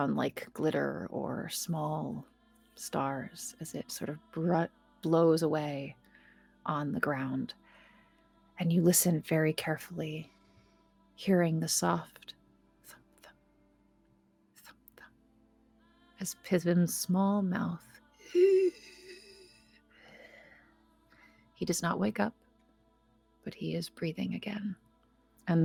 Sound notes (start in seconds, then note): 18.2 Pivam inhales